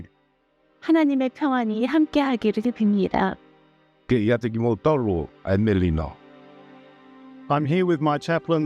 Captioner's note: Korean